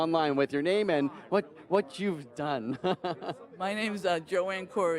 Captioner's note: laughs